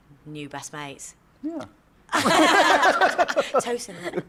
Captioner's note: laughter